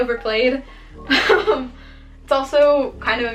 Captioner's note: laughs